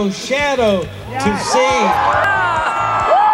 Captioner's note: crowd cheering